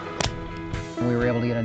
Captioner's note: tag clicks